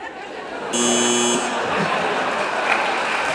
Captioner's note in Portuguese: risos e campainha